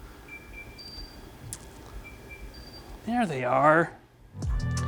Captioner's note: AirPods beeping